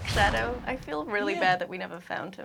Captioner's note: whooshing